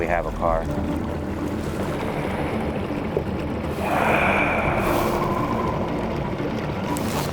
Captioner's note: suspenseful music; sighing; motor droning; suspenseful music continues